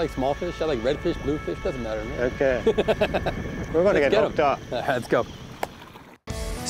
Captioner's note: laughs